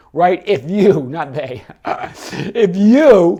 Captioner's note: laughs